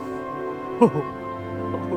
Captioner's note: laughs